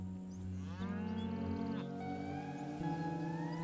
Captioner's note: cows lowing